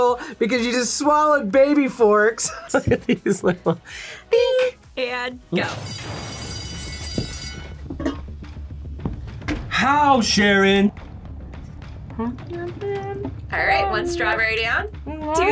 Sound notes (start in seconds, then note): 2.6 laughs; 5.6 bell rings